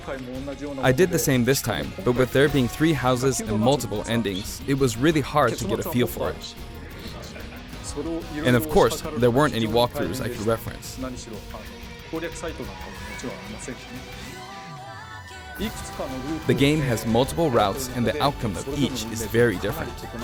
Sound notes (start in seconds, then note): 6.9 laughter